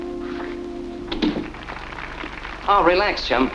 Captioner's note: background applause